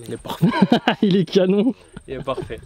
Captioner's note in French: rire